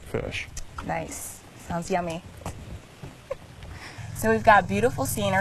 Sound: giggles

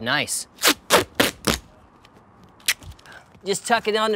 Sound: tearing

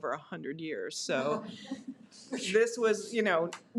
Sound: audience laughs

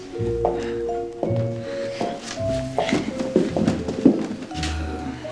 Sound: footsteps

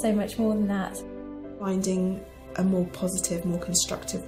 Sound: voiceover

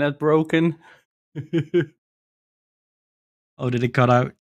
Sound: laughs

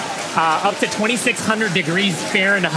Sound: audience cheering

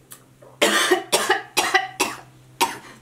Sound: coughs

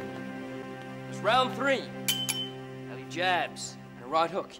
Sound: teacup dings

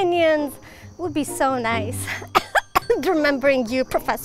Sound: coughs

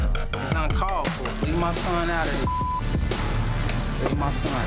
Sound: beep

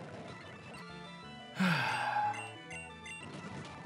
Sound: sighs

